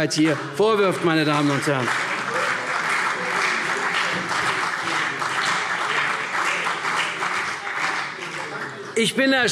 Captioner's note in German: Beifall CDU und BÜNDNIS 90/DIE GRÜNEN